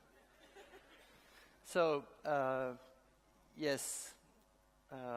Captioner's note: laughter